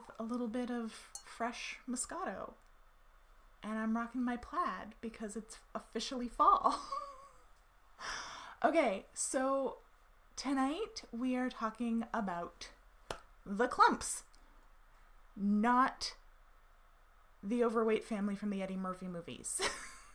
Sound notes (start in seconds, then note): 6.6 laughs